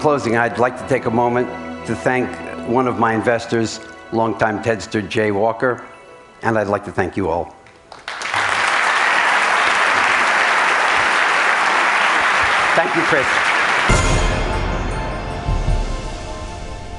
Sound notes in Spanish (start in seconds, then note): 7.6 Aplausos